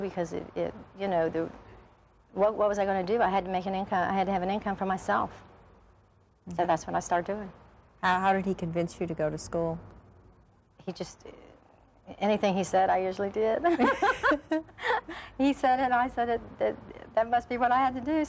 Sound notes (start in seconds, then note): 13.6 laughs